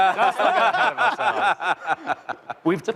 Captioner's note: laughter